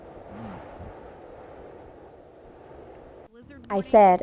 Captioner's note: wind humming